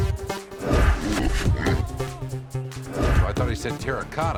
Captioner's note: techno music; whooshing sounds